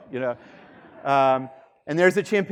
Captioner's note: students laughing